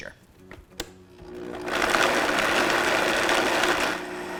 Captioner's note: blender whirs